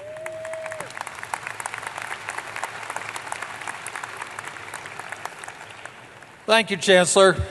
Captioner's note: applause